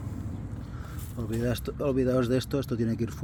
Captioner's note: sigh